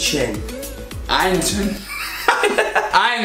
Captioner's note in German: lacht